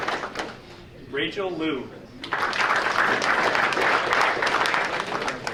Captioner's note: audience applauding